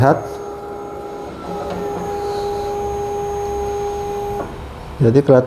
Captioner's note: printer machine noise